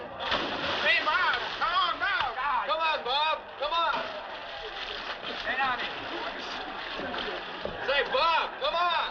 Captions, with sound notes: Hey, Bob, come on down! Come on, Bob! Come on! [ Chattering ] Say, Bob, come on!